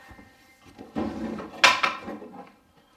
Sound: object clattering

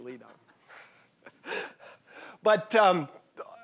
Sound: audience chuckling

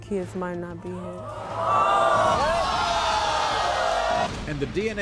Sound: audience gasps

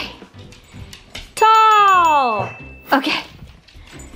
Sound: bell dings

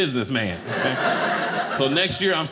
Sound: audience laughing

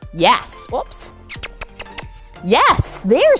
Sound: kissing sounds

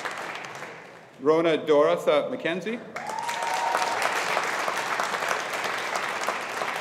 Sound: audience applauding

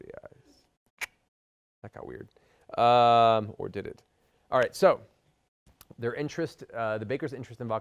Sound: clicks tongue

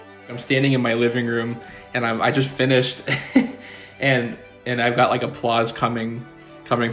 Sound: violin plays; chuckles

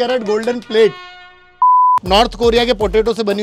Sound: beep

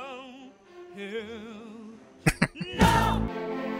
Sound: chuckling

